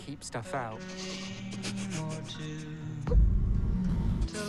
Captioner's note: whimpers